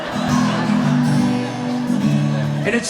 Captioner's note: audience laughs